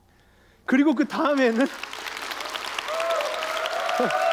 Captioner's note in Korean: 박수와 환호